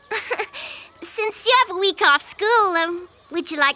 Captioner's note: chuckling